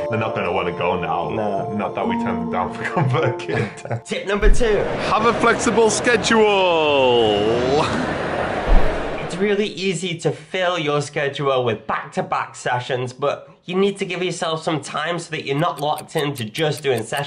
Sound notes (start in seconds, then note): 3.2 laughing